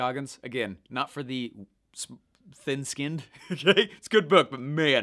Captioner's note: laughing